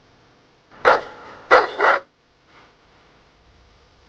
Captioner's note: dog barking